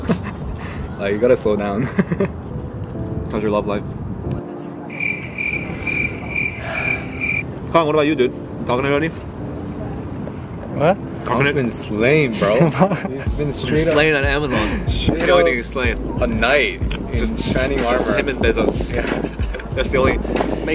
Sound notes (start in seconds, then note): 2.9 laughs; 4.8 crickets chirp; 6.5 sighs